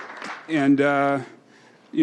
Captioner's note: applause